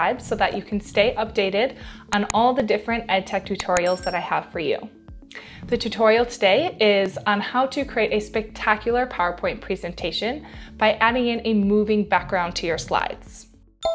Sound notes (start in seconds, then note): 2.2 image pops; 3.5 cursor clicks; 3.6 bell rings